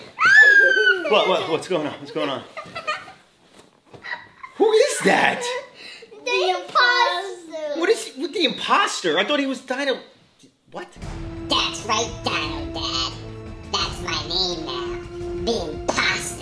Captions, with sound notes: - What's going on, what's going on. (laughs) who is that? - The Imposter. - What is with the Imposter, I thought he was dino what. - That's right Dino Dad, that's my name, the Imposter.